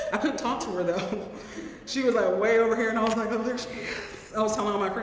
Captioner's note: laugh